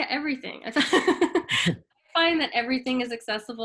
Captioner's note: both laugh